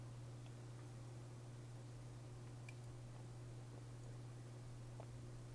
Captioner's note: drinking